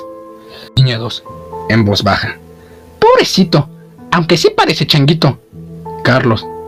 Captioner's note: in a low voice